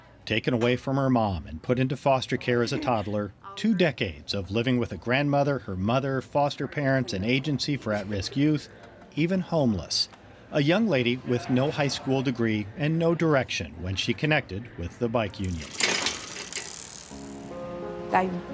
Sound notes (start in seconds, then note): 15.6 metals clanking and whirring; 17.2 somber music